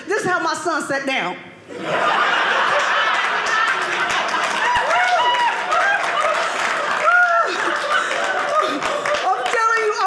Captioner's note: audience laughing